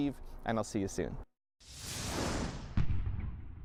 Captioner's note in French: swoosh